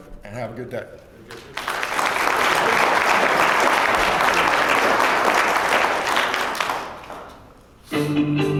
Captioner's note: applause